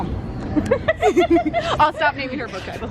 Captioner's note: laughing